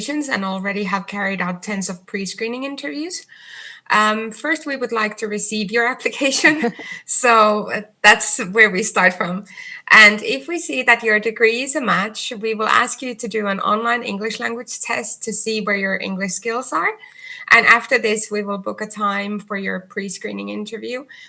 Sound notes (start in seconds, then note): 6.2 chuckles